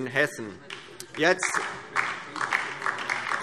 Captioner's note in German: Beifall DIE LINKE